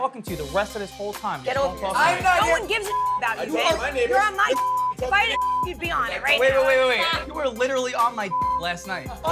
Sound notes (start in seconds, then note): 2.6 beep; 8.3 beep